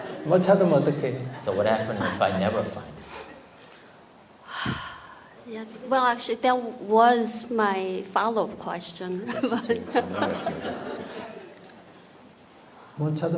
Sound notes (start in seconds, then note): 4.4 questioner Sigh; 9.2 questioner/Audience Laughter